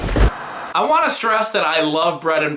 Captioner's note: static